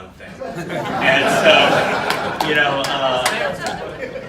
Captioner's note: audience laughing